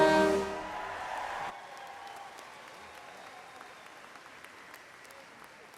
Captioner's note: audience cheers and applauds